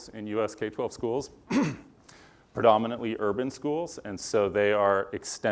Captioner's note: cough